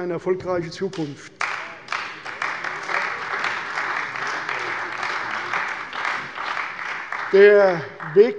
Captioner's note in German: Beifall bei der CDU und dem BÜNDNIS 90/DIE GRÜNEN